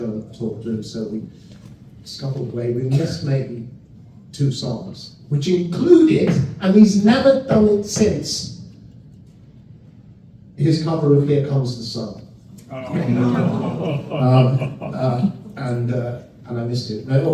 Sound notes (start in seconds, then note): 12.7 laughter